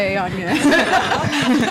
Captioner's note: all laughing